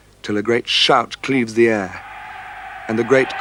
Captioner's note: people shouting